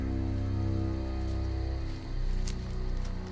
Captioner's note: crickets chirping